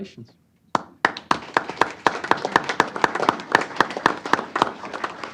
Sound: applause

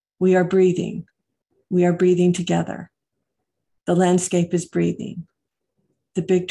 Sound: none

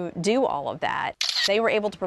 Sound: camera shutter

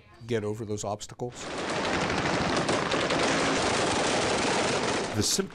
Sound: machine guns banging

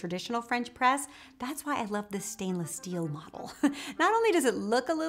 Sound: laughs

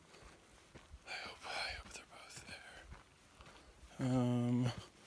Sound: whispering

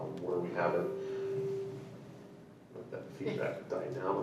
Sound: mic screeches

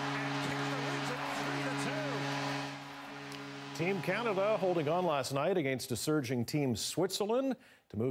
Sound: cheering and Applause

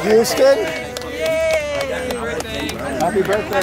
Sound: everyone cheers

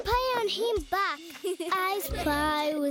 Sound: laughing

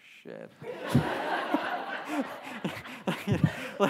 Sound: audience laughs; laughs

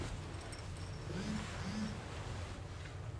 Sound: cellphone buzzing

